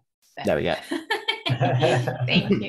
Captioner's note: crowd laughs loudly